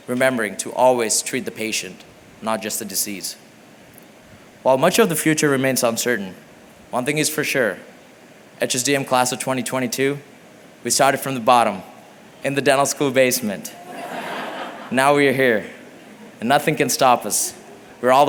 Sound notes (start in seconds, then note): 13.7 laughter